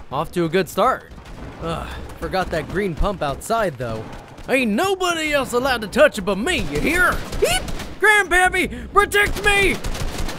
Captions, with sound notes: off to a good start. Ugh, forgot that green pump outside, though. Ain't nobody else to touch it but me, ya hear? (yelps) Grand-pappy, protect me!